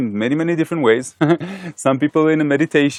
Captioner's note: laughing